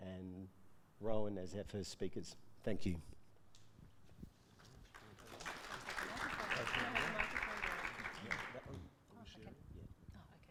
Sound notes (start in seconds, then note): 4.6 audience clapping